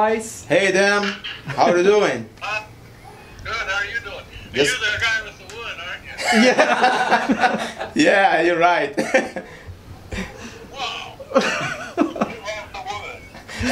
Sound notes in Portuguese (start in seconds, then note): 6.2 risos